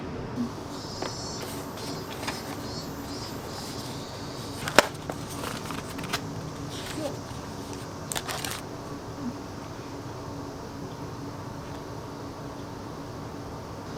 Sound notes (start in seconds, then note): 1.1 cicadas singing in the background